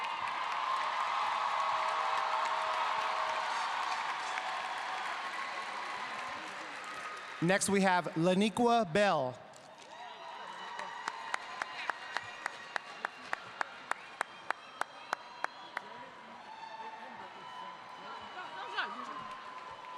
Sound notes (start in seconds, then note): 6.4 cheers and applause